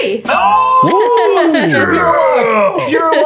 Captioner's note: laughing